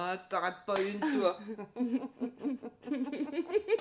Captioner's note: giggling